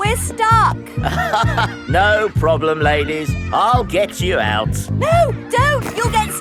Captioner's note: chuckles